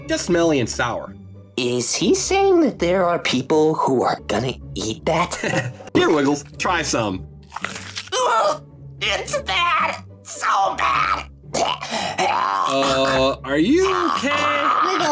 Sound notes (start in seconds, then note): 5.7 laughs; 7.5 chomping; 8.0 disgusted screaming; 11.7 retching